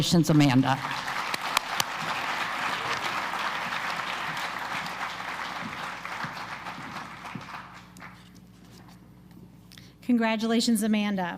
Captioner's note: applause